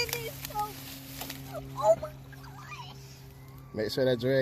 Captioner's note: water splashing